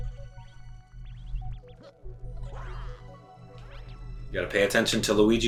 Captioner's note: gaming sounds; instrumental music